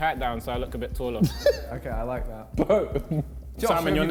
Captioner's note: JJ laughing